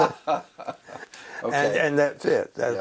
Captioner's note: laugh